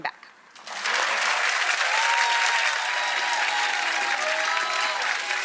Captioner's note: audience applauding